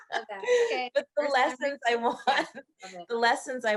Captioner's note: both laughing